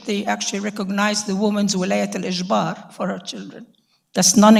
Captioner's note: speaking in foreign language